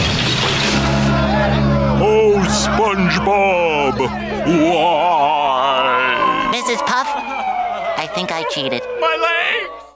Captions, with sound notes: [deep voice] Oh, SpongeBob, why? Mrs. Puff, I think I cheated. My leg!